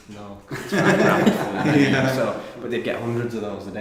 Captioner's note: men laughing